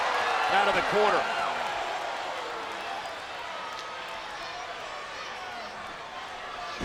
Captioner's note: applause